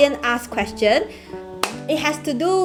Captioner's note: clap